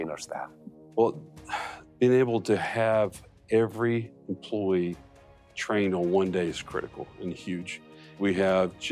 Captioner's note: sigh